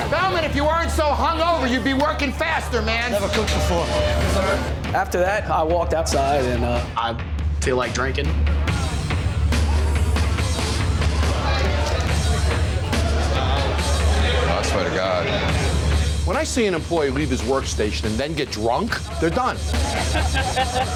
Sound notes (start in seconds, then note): 11.1 chatter; 19.6 laughter